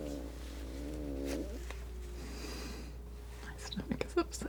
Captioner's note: scratching